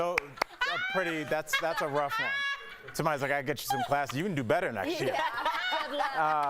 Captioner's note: laughter